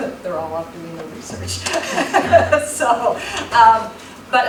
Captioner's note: laughs